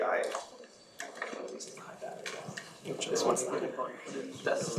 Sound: audience chattering

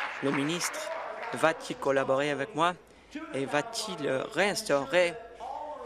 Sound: applause

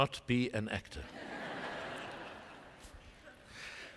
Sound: laughter

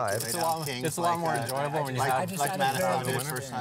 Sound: table chatter

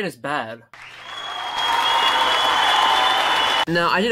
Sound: applause

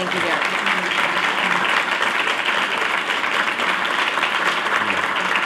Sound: applause

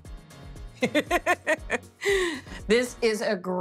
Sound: laughs

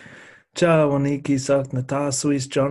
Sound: non-english speech

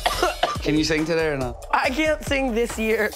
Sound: coughing

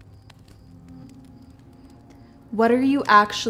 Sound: fire crackling

